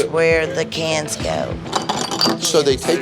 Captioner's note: bottle smashes